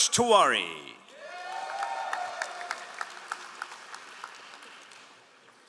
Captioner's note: all applauding